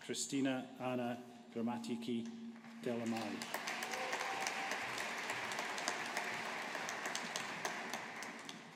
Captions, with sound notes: Christina Anna Grammatiki Delamani. (AUDIENCE APPLAUDING)